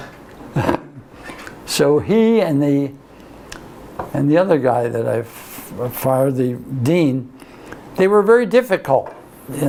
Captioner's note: laughs